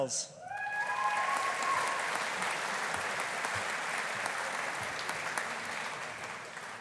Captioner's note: audience cheering; audience applauding